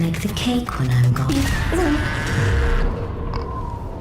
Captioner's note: computerized screaming